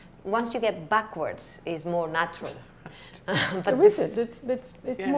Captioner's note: laughs